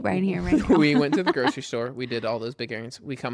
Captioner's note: laughs